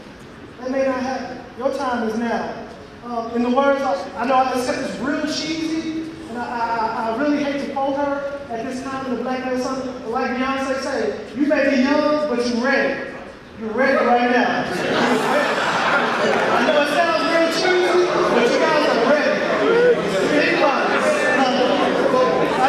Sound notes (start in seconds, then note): 12.5 audience laughing